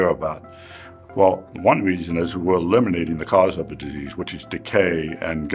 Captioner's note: inhales